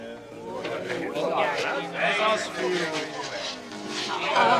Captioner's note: speaking arabic dialect